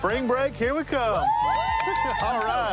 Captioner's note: cheering